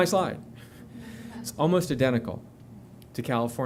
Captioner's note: laughter